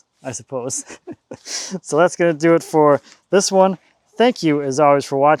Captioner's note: laughing